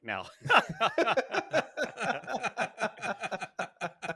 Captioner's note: all panelists laughing